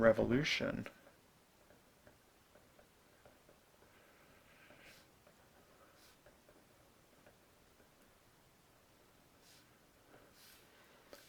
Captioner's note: writing